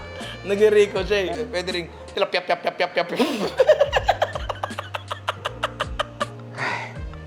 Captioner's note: laughs; laughs